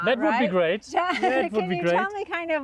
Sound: chuckling

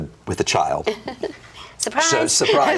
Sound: laughs

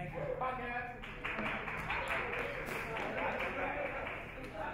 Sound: audience chatter

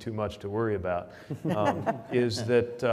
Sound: panel laughs

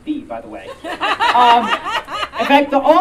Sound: audience Laughing

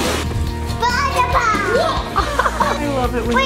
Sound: laugh

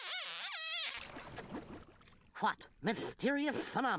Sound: water bubbling

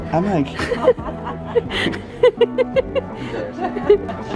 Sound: camerawoman laughs

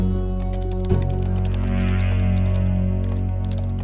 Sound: tense music; keys clacking

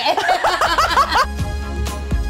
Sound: both laughing; upbeat music

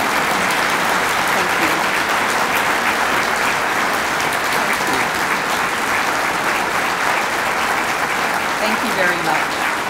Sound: applause

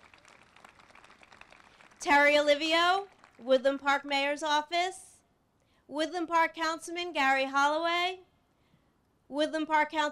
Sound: applause

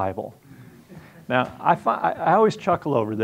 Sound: audience chuckling

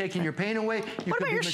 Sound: laughter

